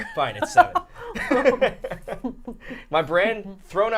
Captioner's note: all laughing